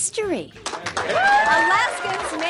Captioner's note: crowd applauding and cheering